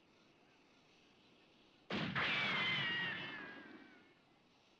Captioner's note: gun fires